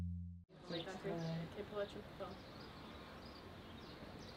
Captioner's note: birds chirping